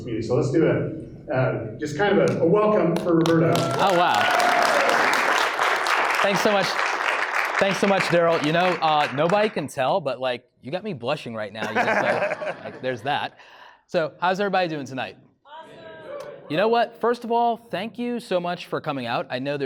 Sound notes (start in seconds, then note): 3.0 audience applauds; 11.6 laughing